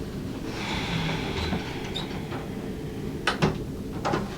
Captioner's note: Allie sighs